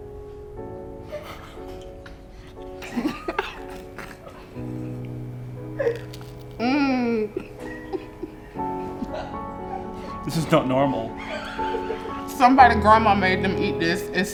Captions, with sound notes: (laughs) - This is not normal. - Somebody's grandma made them eat this